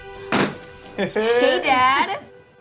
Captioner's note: Marty laughs